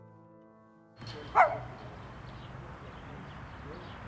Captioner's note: dog barking